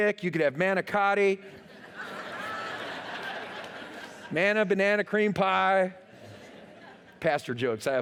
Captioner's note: laughter